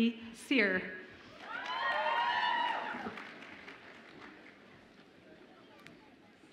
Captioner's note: audience applauds and cheers